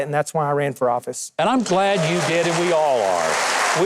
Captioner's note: audience cheering